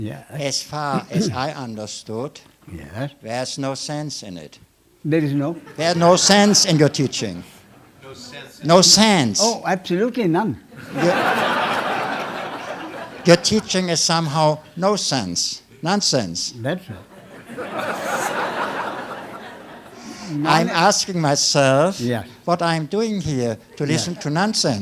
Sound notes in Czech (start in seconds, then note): 10.7 smích; 17.1 smích